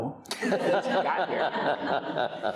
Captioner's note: all laughing